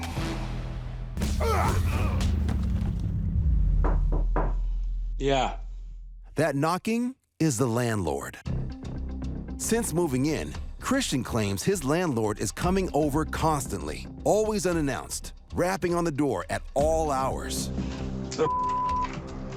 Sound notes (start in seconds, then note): 1.2 men grunting; 3.2 knocking on door